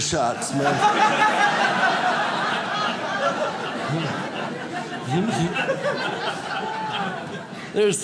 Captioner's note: audience laughs